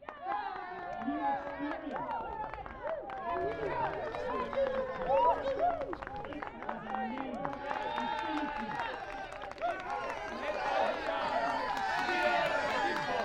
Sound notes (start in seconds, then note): 0.1 cheers and claps; 4.9 crowd; 10.3 crowd